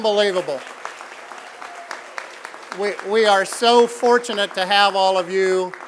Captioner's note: applause